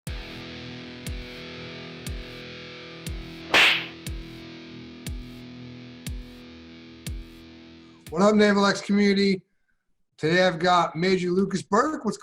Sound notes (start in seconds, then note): 0.7 upbeat rock music; 3.5 sharp snapping